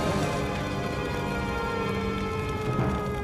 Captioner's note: sirens